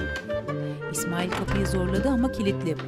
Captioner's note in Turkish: Kapı açma sesi